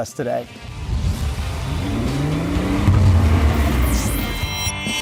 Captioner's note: engine revving